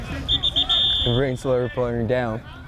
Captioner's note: whistle